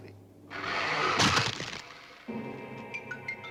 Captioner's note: bones cracking